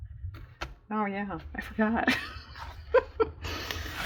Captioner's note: laughs